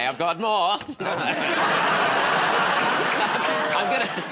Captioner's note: laughter